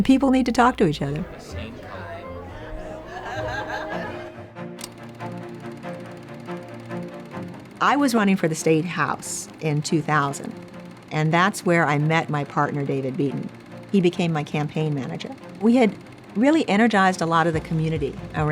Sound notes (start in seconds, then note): 1.6 crowd chatter; 4.5 upbeat music